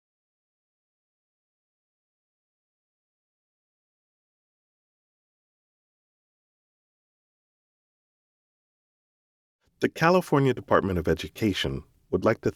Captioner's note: pause